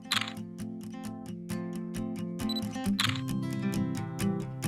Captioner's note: camera shutter clicking; bright acoustic guitar music